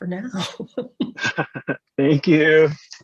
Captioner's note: laughs